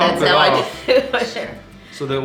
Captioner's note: laughing